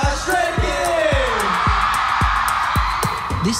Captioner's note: audience screams